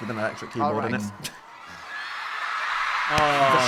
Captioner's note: audience cheering